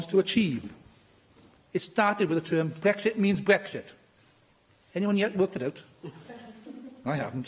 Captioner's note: laughter